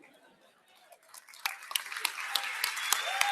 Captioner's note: applause